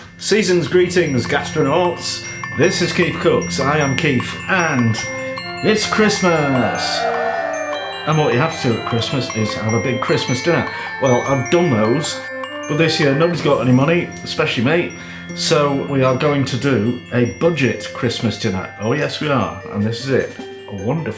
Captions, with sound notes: Seasons Greetings Gastronauts, this is Keef Cooks, I am Keef and it's Christmas. [ CHEERIN ] And what you have to do at Christmas is have a big Christmas dinner. Well I've done those. But this year, nobody's got any money, especially me, so we are going to do a budget Christmas dinner. Oh yes we are and this is it. Wonderful.